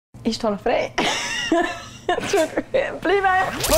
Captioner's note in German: lacht